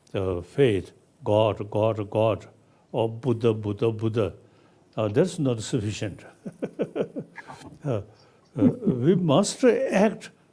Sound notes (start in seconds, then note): 6.3 chuckles